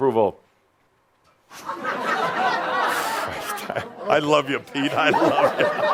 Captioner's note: audience is silent, then laughter